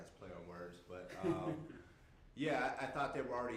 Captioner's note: laughing